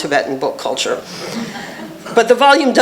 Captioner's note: laughter